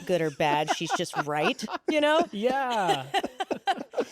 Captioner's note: laughs